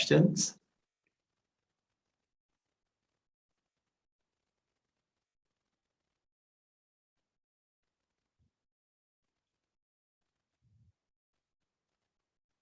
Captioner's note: semi-awkward silence for about 30 seconds